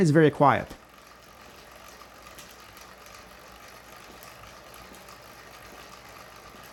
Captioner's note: bike chain rolling